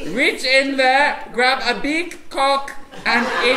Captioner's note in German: französisch